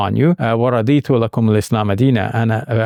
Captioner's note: speaking in foreign language